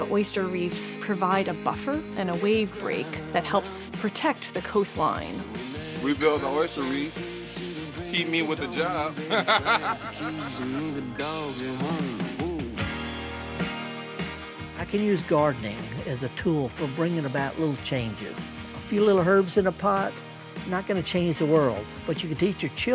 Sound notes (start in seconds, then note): 13.0 laughter